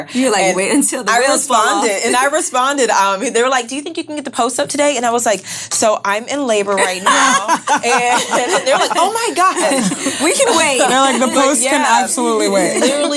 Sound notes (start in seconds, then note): 6.8 laughing